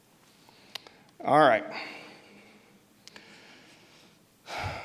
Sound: sighs

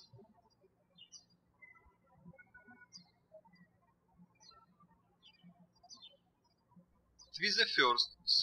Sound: birds chirping

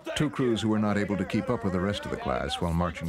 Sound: voiceover

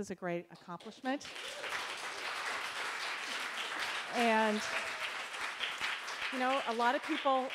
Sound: applause

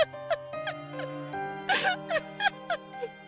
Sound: laughs; sobbing; laughing into sobbing

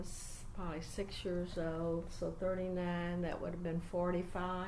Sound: none

